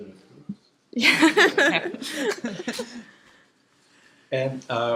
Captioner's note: laughter